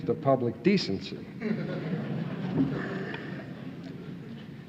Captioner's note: audience laughing